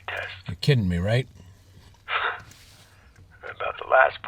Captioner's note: mcintire chuckles